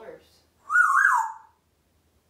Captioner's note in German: whistling